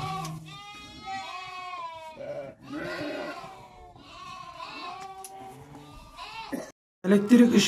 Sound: lamb sheep bleating sounds meeee meee meee

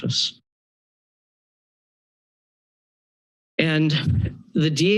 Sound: pause

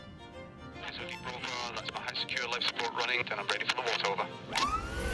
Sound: radio Chatter

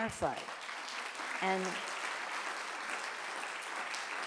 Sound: audience applauding

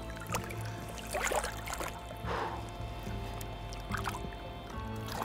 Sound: water splashing

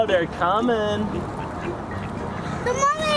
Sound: ducks quack

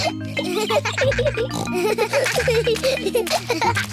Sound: giggling; peppa snorts

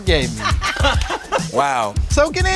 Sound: laugh

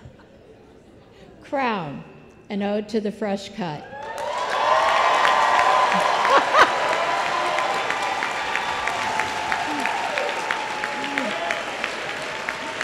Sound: applause

